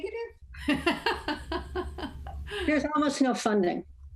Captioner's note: laughs